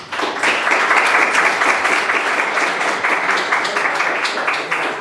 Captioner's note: audience applauds